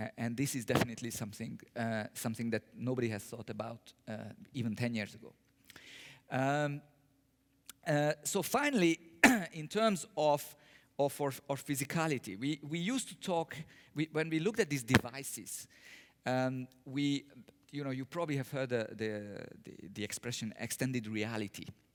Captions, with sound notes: And this is definitely something that nobody has thought about, even ten years ago. So finally, [COUGH] in terms of physicality, we used to talk, when we looked at these devices, you probably have heard the expression extended reality.